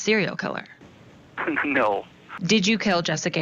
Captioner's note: laughing